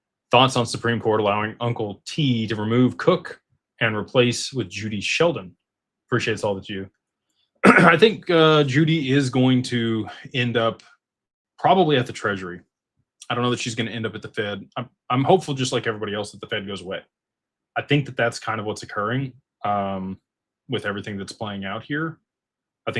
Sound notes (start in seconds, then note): 7.6 clears throat